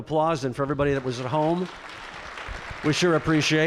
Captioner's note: applause